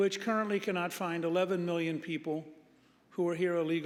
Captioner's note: none